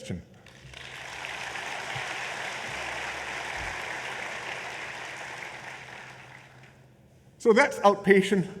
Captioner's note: applause